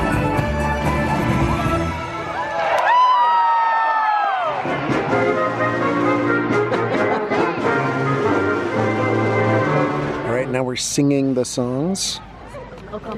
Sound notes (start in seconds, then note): 2.3 audience cheers and applauds; 6.6 laughs